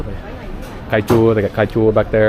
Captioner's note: speaking Vietnamese